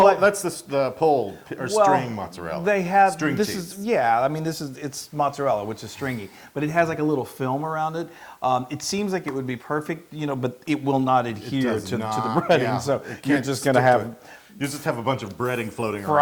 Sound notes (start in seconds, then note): 11.6 laugh